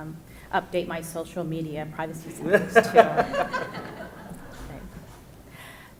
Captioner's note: audience laughs